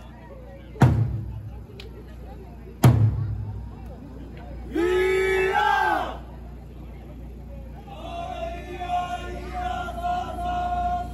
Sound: Okinawa dialect

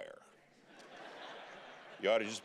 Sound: congregation laughing

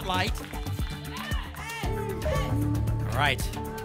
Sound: audience shouting numbers

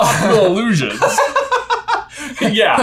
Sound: laughing

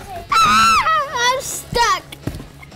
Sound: screams

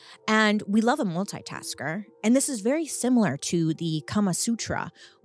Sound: none

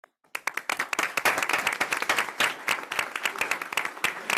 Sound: group applauds

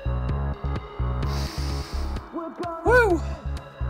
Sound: sniffing

